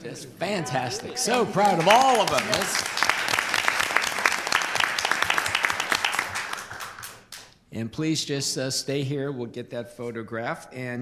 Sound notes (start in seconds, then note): 2.7 applause